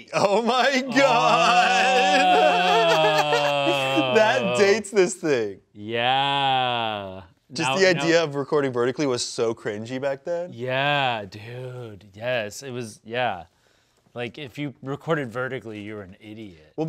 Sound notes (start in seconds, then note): 0.1 laughs